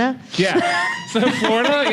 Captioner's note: laughter